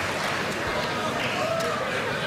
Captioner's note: applause